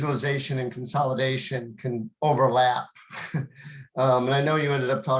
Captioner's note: chuckles